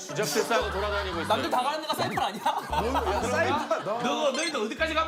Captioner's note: youTubers just laughing